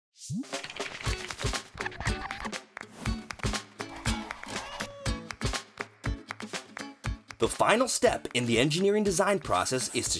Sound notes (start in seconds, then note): 4.0 cat meows